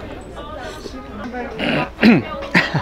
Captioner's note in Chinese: 咳嗽聲